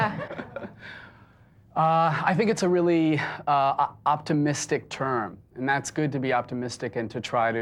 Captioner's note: laughs